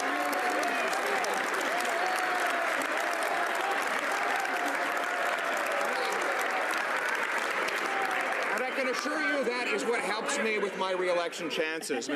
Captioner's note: some Applause